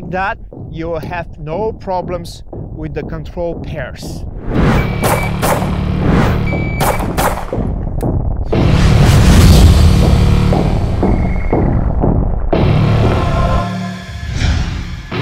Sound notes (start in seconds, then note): 4.9 gunshots bang; 4.9 suspenseful music; 8.8 image fizzes and explodes; 11.3 suspenseful music continues